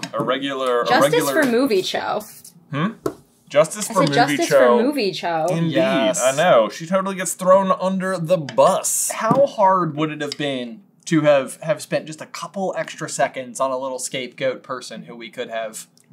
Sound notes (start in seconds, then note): none